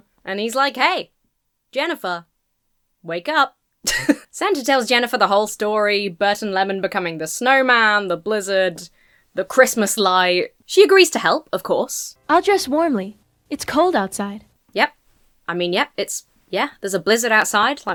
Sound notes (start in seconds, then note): 3.8 chuckles